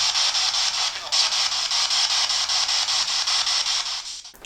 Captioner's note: static